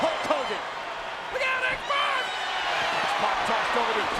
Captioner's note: crowd cheering